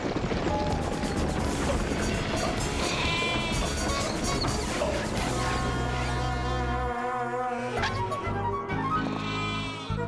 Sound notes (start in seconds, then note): 2.3 baa-aaa